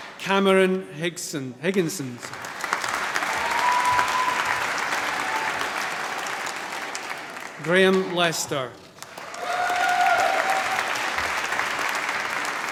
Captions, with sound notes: Cameron Higginson. (APPLAUSE) Graeme Lester. (APPLAUSE)